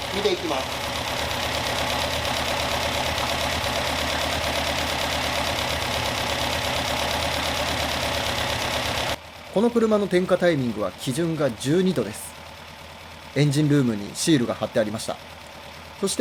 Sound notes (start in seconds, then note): 1.7 engine noise